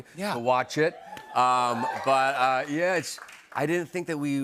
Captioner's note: crowd cheering